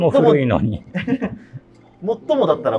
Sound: laughing

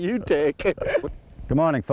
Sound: laughter

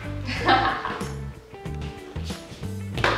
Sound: laughing

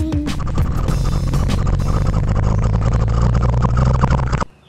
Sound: crane motor

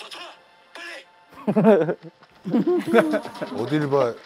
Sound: laughing

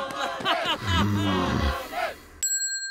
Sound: laughs; Nathan grumbling; bell dinging

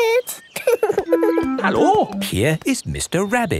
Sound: laughing

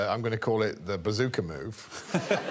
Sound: audience laughing

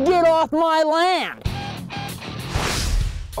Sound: beeping; whooshing

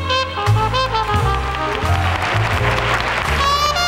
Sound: audience applauding

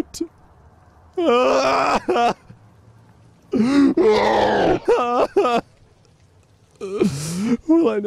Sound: distorted wailing

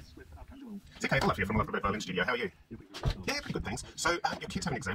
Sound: speed talk sound

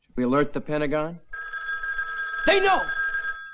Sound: phone ringing

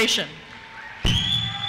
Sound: cheers

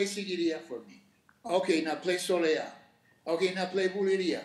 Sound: speaking Spanish

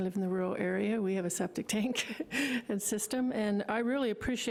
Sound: laughing

